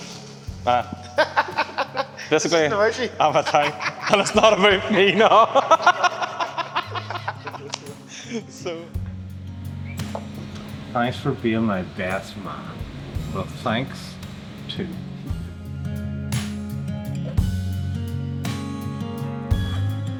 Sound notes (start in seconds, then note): 0.1 laugh; 7.0 laugh